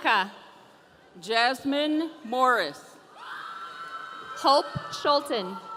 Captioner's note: audience cheering